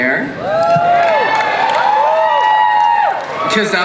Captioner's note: crowd cheers